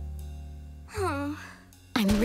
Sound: sighing

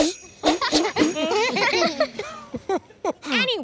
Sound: laughing

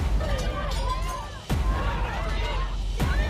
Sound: screaming; dishes clanging

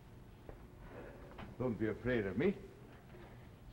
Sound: Charles' voice

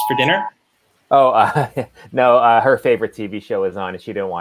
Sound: chuckling

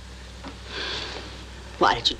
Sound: sigh

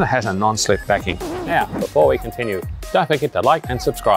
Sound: record scratching

